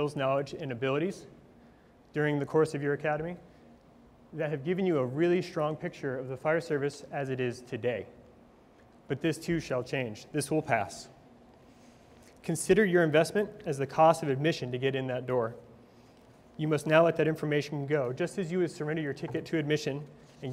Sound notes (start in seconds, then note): none